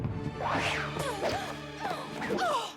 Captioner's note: whoosh!